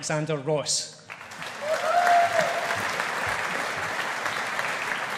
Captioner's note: audience applauding